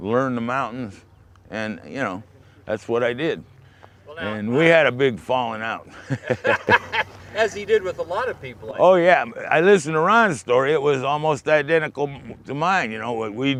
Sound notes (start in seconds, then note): 5.8 laugher